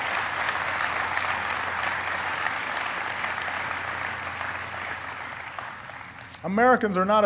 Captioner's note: applause